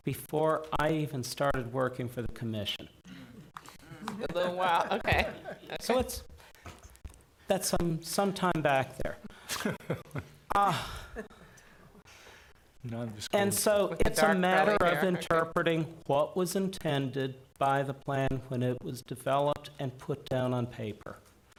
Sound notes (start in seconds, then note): 3.9 people laughing; 9.3 man laughing